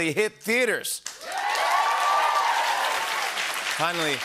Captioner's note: cheers and applause